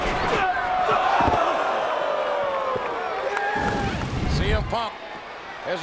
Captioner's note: bodies thud